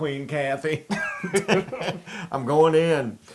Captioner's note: laugh